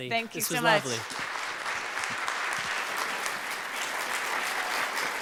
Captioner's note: audience applauds